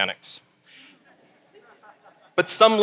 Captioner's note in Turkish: Gülüşmeler